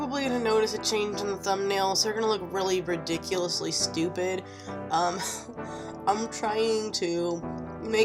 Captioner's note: laughs